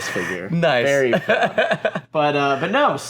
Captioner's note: hearty laughter